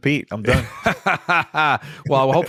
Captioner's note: laughter